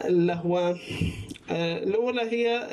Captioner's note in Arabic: بلع الريق